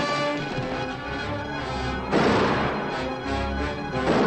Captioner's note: cattle mooing; gunshots